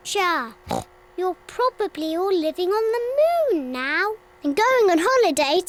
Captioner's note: oinks